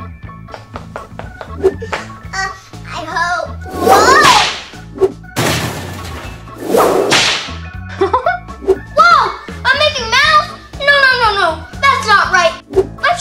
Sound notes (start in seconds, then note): 0.3 footsteps pattering; 1.6 Assistant swooshing; 3.8 whip lashes; 5.3 lift crashing; 6.6 whip lashes; 7.9 laughing